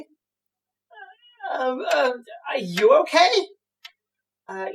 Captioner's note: stammering